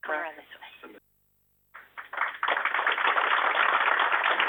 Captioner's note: applause